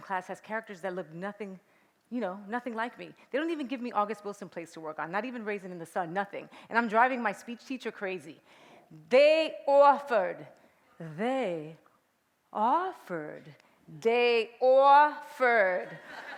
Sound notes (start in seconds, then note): 8.7 bronx accent; 10.7 clear dictation; 13.5 bronx accent